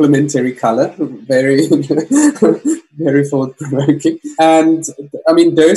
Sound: giggles

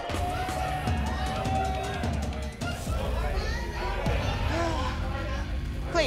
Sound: patrons chattering excitedly

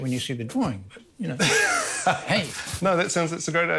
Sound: laughs

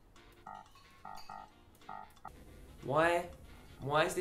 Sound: beeping

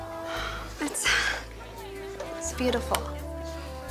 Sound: sighs

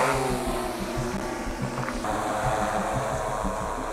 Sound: drone buzzes

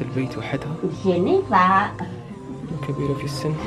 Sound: speaking Indonesian

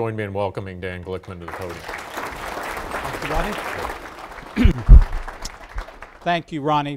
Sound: applause

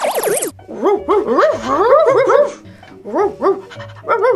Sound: dogs barking

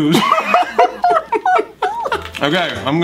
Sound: laughs

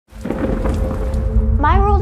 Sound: thunder storm

